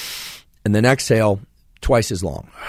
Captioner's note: inhales quickly